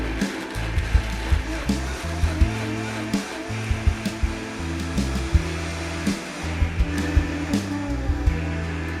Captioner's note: sound of blender blending